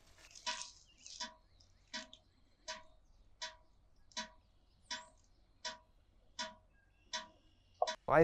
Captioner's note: sap dripping